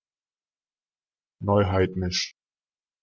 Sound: fast Pronunciation

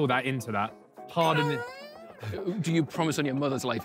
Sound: moans

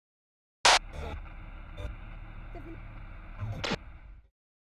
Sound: tv static

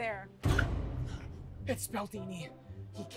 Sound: gasp

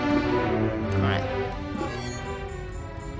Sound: drone call sound

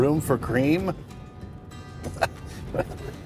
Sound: chuckles

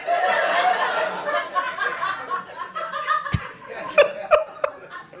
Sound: audience laughing

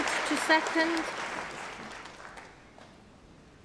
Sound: applause

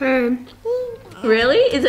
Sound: baby babbling

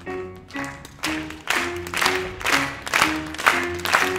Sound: audience claps along to the beat

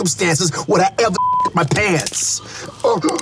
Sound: beeps

